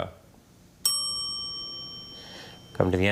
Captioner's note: bell chimes